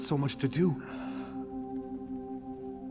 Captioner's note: gasps